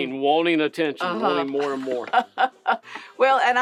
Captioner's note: laughs